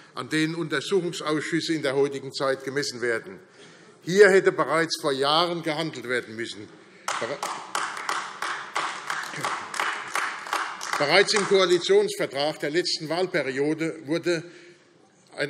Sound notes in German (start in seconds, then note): 7.0 Beifall AfD